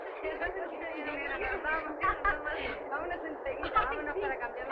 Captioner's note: music muting; dancers speaking Spanish